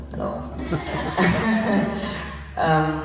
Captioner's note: laughs